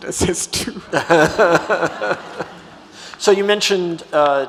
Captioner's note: audience laughs